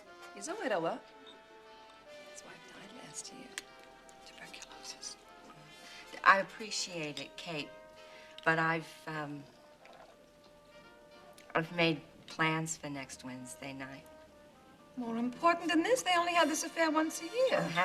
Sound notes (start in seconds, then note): 4.1 whispers